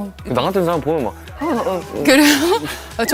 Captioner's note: gasp